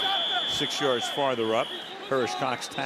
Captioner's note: whistle